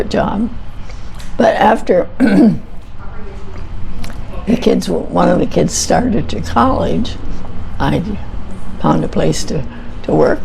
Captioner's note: clears throat